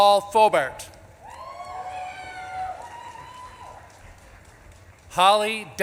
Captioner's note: audience claps and cheers